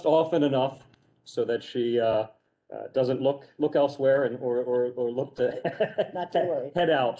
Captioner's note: laughter